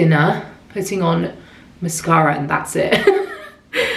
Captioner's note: laughs